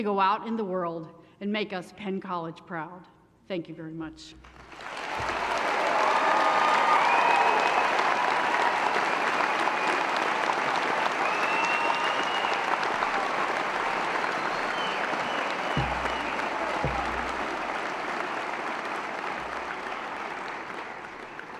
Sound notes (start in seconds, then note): 5.1 applause & Cheering